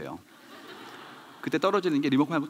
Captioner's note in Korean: 웃음